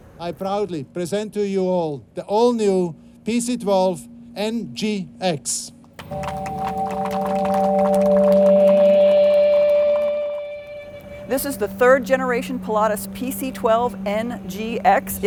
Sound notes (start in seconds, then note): 6.0 applause; 8.3 dramatic music